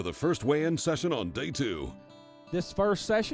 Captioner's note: voiceover